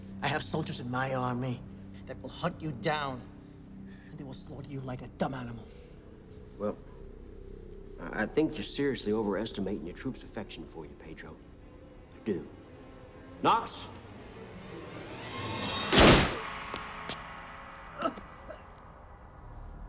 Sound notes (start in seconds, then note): 14.7 tense music; 15.6 gunshot bangs; 16.0 Pablo groans